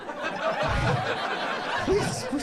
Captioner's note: audience laughs